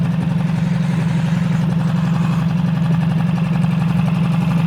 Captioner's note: boat whirring